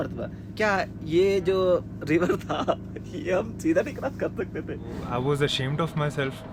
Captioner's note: laughs